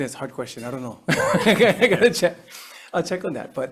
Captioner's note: laughing